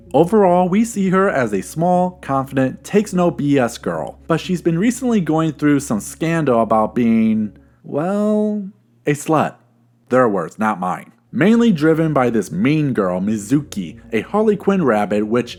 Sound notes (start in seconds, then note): none